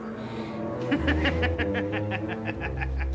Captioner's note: laughing